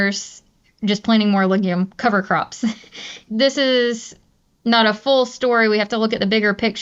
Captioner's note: laughs